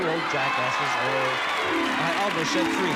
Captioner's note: cheers and applause